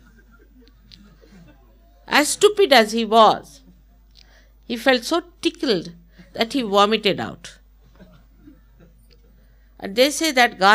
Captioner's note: laughter